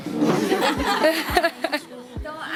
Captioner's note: laughs